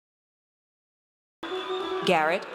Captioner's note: audience cheers